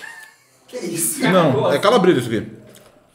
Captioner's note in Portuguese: risos